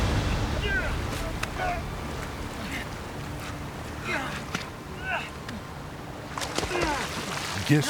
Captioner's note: grunting